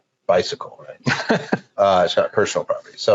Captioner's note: laughing